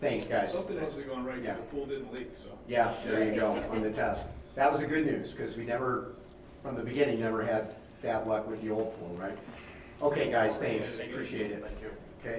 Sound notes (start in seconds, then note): 3.3 laughing